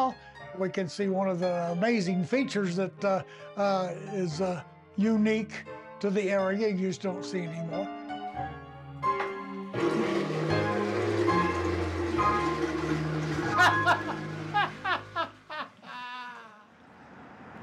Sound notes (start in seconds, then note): 9.7 toilet flushing; 13.5 hearty laugh!